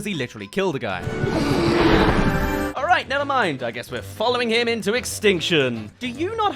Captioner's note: gasps